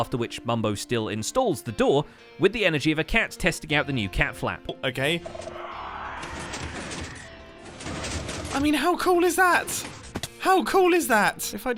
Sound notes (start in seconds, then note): 5.3 shriekers shriek; 6.3 pistons move